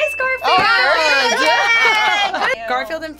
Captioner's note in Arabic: هتاف